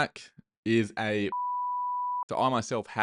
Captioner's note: beep